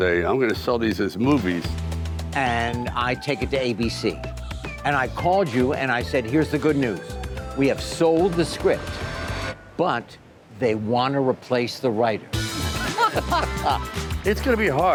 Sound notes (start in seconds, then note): 12.4 Sylvester and Henry laughing